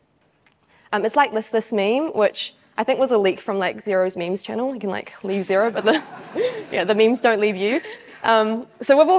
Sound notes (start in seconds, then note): 5.6 audience laughs